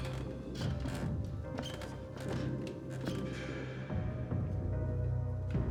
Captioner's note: eerie music continues; stairs creaking